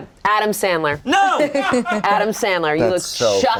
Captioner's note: shouting